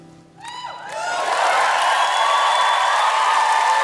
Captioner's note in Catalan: ovació i aplaudiments